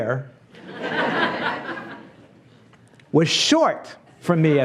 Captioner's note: laughs